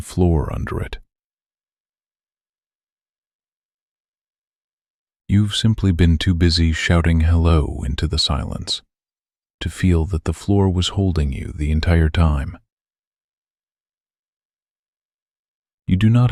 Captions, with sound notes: You have simply been too busy shouting hello into the silence to feel that the floor was holding you the entire time. [long pause] You do not have to go looking for any of this in some special place.